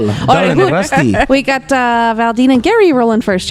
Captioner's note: laughter